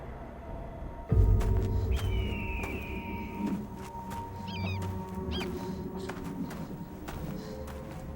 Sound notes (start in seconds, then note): 1.6 bird cawing; 5.4 woman panting